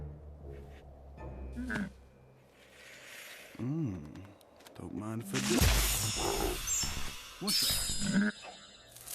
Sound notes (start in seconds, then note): 2.1 sniffs